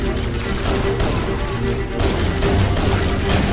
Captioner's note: guns firing